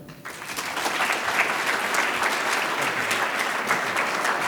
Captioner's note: audience claps